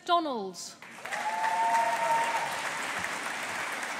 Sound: audience applauding

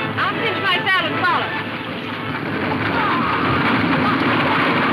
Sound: horses galloping; men whooping

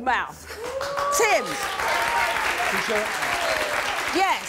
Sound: audience claps

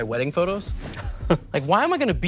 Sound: Toast chuckles

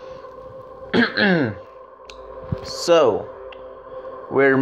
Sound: cough

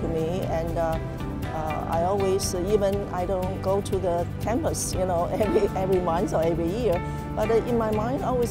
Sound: laugh

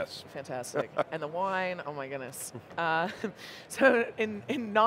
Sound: chuckling

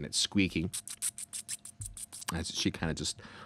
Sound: rat squeaking

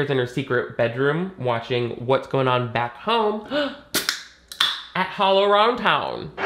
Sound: gasps

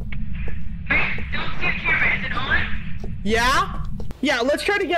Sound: over Radio

